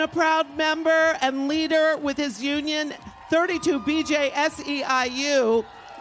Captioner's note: applause